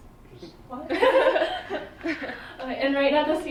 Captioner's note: laughter